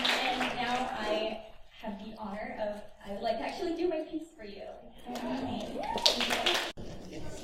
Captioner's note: applause; applause